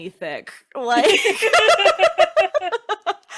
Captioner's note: both laughing